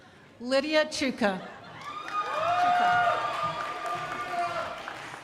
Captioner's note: crowd applauding